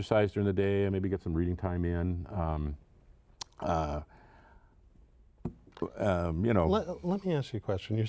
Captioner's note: stuttering